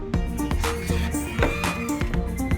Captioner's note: gate squeak